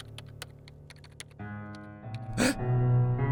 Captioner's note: gasp